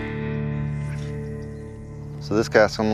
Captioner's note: fishing line throwing